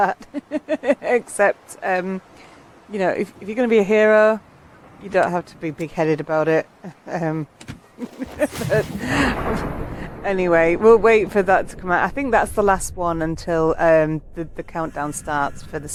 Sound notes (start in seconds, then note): 8.0 laughing